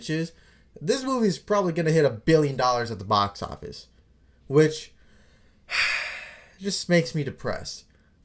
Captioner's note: sigh